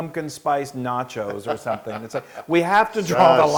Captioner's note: laugh